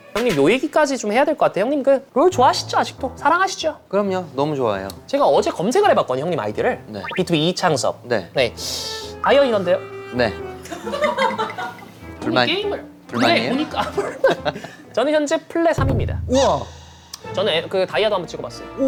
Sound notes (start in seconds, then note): 14.8 confident